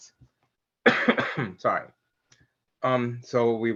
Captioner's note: coughs